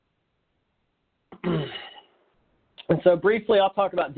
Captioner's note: clearing throat